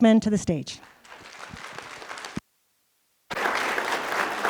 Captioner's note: applause